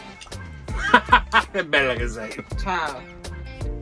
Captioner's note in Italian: risate